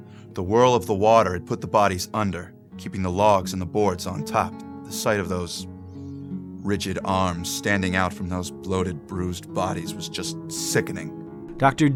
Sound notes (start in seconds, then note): 7.0 voiceover